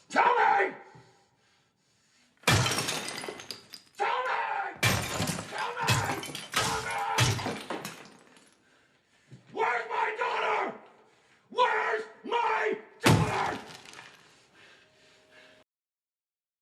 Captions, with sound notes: Tell me! (smashes) Tell me! (smashes) Where’s my daughter? Where’s my daughter?